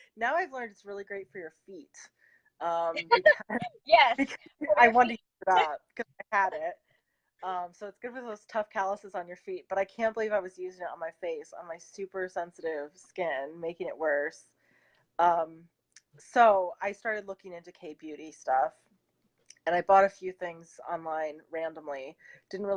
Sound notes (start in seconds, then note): 2.9 laughing